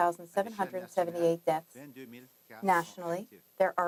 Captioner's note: speaking French